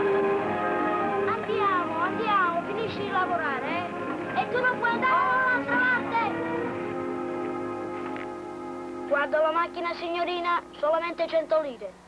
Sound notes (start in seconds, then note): 2.9 yelling in Italian; 10.0 speaks Italian